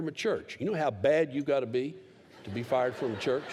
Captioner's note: laughter